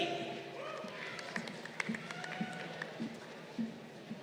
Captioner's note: crowd applauding